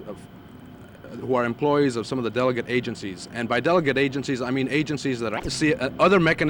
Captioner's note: camera noise